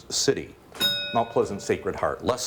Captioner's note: bell rings